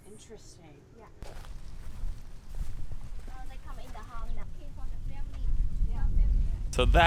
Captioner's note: light conversation in the background